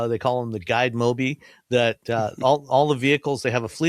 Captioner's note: chuckles